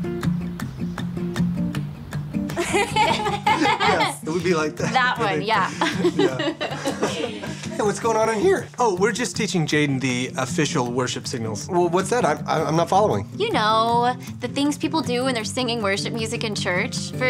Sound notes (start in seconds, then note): 0.1 instrumental guitar music; 2.5 laughing